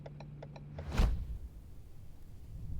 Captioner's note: whoosh